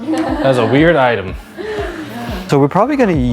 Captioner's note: laughing